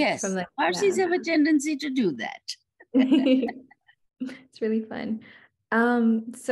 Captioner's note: laughs